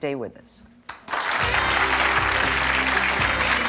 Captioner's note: audience applauding; jazz music